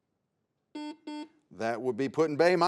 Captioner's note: buzzer sounds